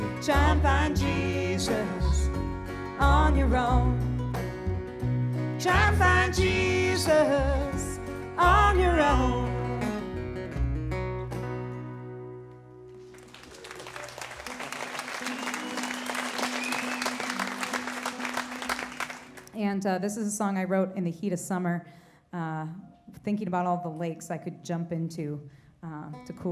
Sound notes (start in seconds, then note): 13.0 applause